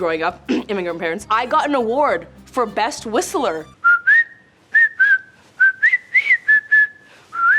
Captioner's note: whistles boisterously